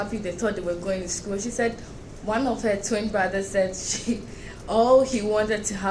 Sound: chuckles

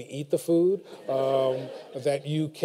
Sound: laughter

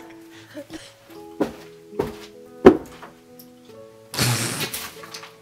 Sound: thumps; blows raspberry

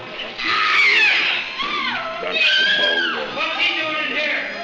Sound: screaming

